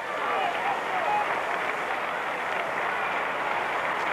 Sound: cheering

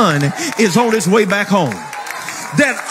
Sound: people cheering

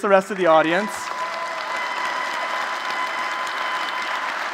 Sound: applause

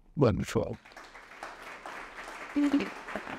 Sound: audience applauding

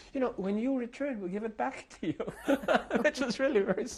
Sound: laughter

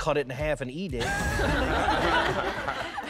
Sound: laughing

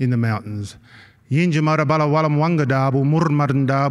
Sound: non-english speech

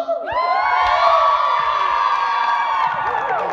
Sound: group cheers

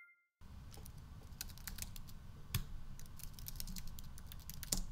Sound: keyboard tapping

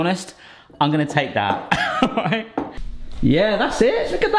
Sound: chuckles

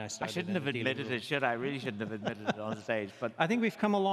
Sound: chuckles

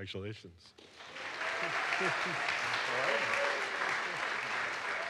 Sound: audience applauds

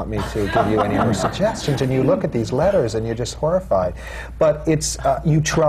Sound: laughter; laughs

